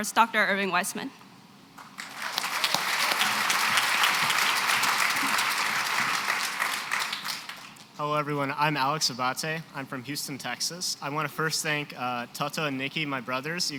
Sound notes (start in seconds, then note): 1.8 applause